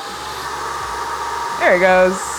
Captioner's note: spray gun whirring